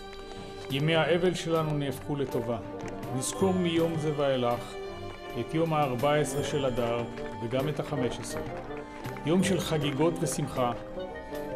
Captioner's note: speaking Hebrew